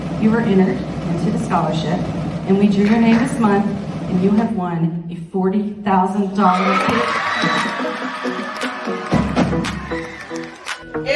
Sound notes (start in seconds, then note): 6.5 applause